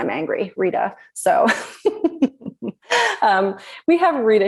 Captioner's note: laughs